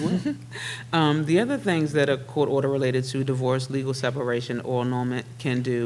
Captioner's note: laughs